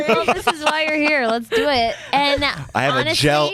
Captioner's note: laughter